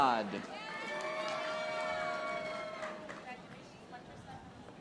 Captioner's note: audience applauding